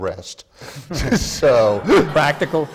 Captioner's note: laughter